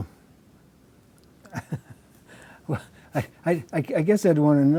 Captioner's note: laughs